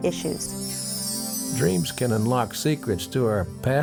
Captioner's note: bells chiming